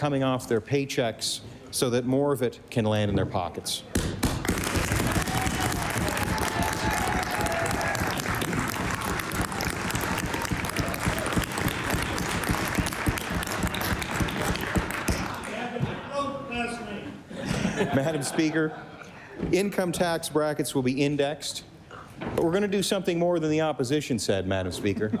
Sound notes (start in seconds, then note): 7.5 applause; 11.1 cheering